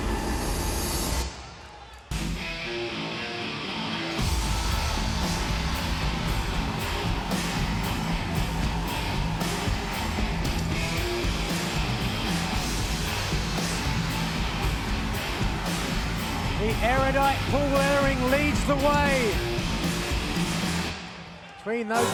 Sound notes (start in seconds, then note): 4.5 fans cheering; 7.8 energetic rock music continues